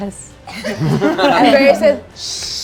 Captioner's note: all laughing